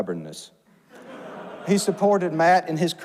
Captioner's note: audience laughs